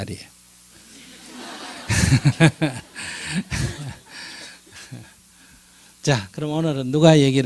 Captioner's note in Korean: 청중웃음